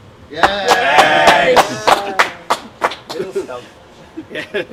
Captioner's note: applause